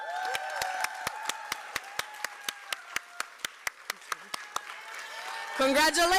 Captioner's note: applause